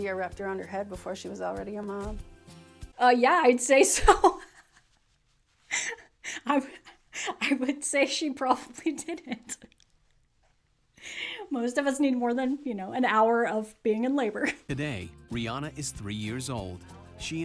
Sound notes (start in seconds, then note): 7.2 laughs